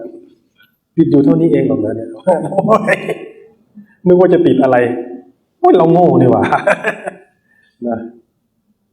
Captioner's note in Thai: เสียงหัวเราะ